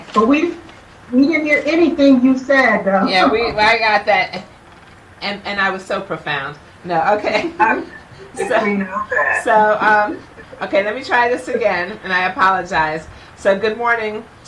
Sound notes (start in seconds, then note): 7.2 chuckling